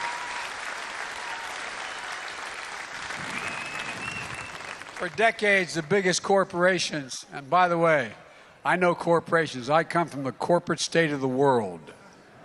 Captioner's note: applause